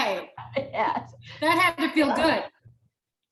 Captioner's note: chuckles